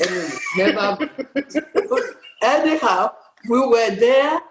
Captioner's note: laughs